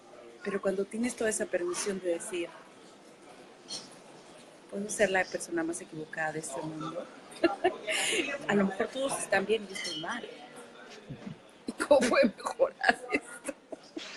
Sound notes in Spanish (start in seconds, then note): 7.4 risas